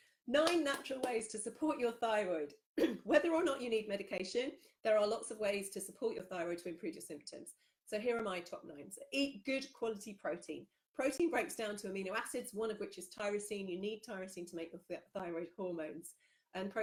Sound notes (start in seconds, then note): 0.4 claps; 2.8 clears throat